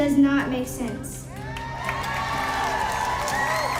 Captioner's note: audience cheers and applauds